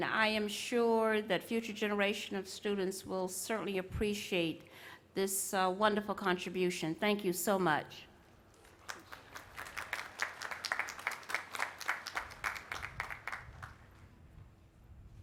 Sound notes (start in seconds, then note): 8.5 applause